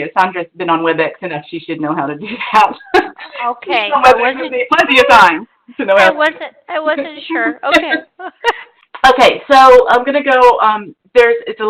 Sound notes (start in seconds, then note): 2.8 laughs; 7.4 laughter